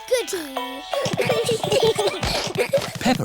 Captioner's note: all giggling